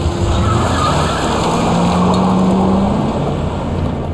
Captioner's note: car engine revving; tires squealing